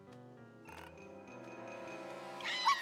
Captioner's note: creak!